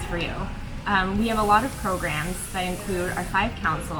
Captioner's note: water gushing